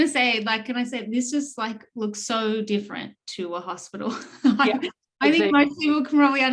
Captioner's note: chuckles